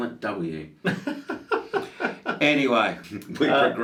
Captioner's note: laughs